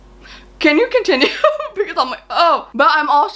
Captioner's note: laughs